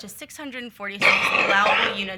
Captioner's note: attendee coughing loudly